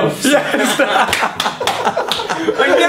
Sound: laughs

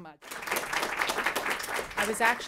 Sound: applause

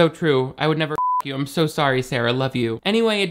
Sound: beep

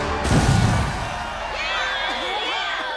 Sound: cheering

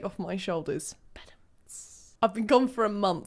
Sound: whispers

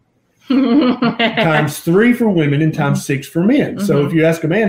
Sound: laughter

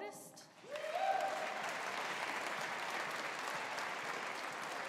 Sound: audience applauding

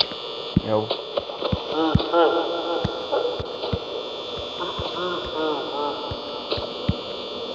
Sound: Freddy laughs

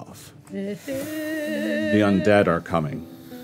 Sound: player imitates ominous music

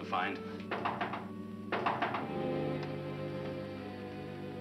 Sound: knocking on door

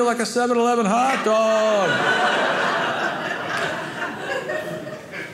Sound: audience laughing

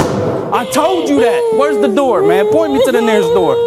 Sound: cries

